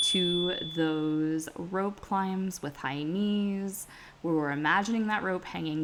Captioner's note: chime